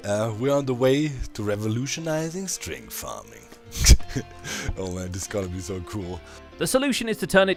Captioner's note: chuckles